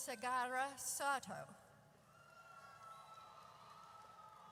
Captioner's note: audience cheers